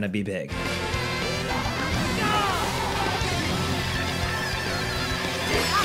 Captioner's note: in-game effects and music